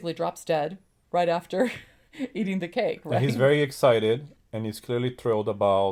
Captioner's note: laughs